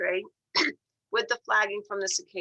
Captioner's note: cough